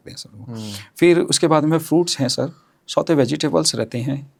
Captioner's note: nasal sound